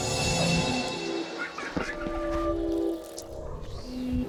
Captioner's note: child laughing